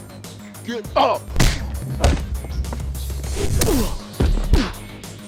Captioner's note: kicks thwacking; fists whacking